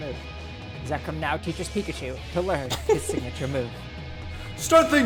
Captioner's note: laughs